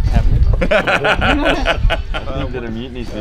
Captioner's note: laughter